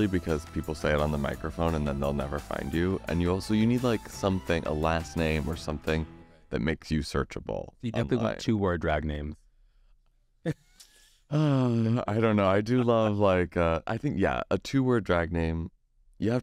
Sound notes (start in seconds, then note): 10.8 laughs; 11.2 sighs